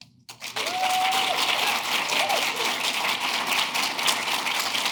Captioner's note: audience clapping